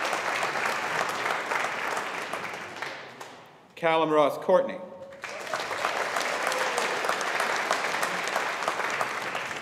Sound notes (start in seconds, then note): 0.0 audience applauding; 5.2 audience applauding